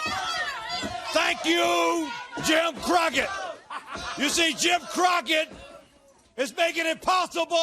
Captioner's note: crowd chatter